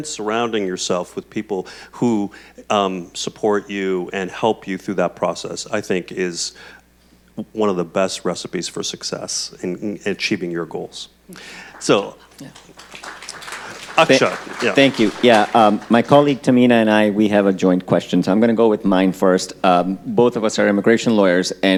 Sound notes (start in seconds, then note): 14.3 audience clapping